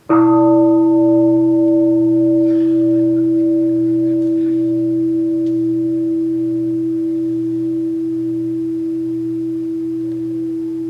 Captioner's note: the bell is invited to sound